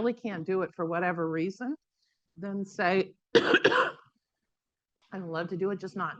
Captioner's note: coughs